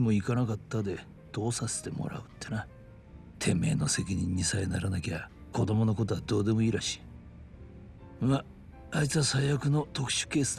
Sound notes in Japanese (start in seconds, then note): none